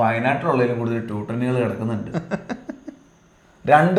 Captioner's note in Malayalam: പൊട്ടിച്ചിരി